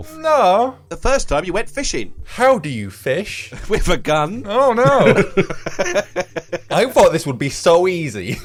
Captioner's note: laughing; laughs